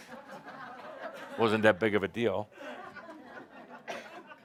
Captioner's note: laughter